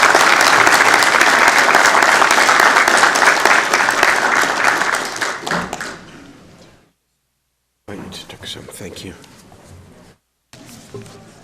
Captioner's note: applause